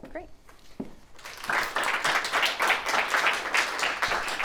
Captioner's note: applauding